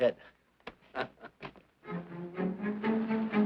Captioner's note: chuckling; suspenseful instrumental music